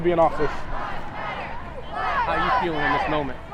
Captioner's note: crowd